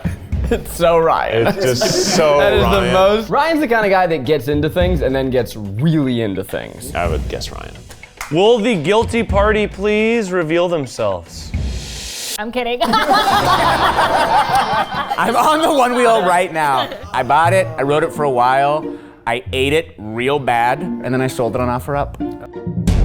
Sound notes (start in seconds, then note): 12.8 all laughing